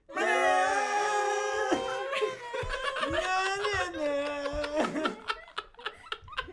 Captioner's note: they're just dissolving into a fit of giggles now